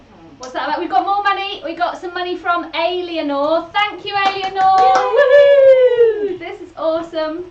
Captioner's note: they cheer